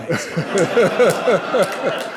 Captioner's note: laughter